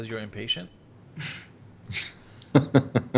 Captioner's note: they both laugh